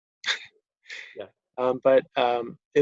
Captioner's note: chuckles